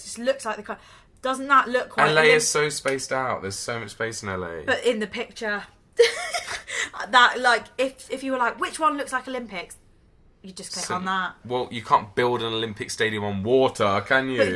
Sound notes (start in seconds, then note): 6.4 laughs